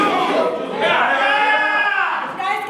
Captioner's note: animals cheer